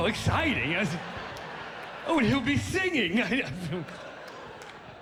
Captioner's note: chuckles